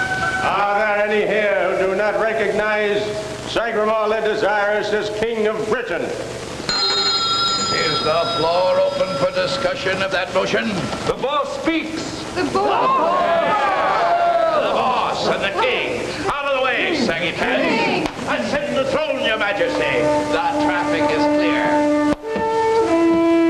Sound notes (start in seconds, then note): 12.1 commotion